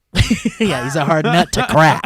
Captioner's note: laughing